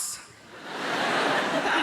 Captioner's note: audience laughs